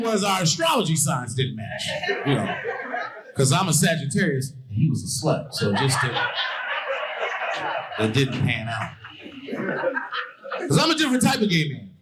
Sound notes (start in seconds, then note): 5.4 audience laughing